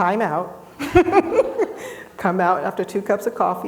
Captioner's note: laughing